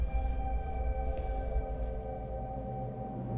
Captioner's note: thump